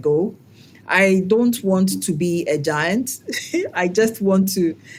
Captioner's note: laugh